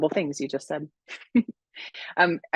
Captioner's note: laughing